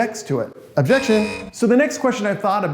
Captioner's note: buzzer beeps